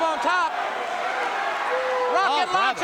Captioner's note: crowd cheering